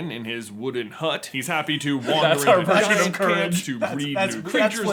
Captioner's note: laughter